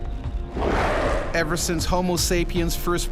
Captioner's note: voiceover